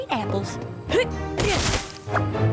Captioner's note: grunt/crash